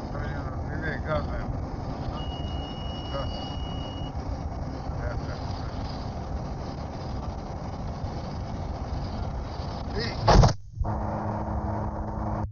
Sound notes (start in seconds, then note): 2.0 sound Of Altitude Alert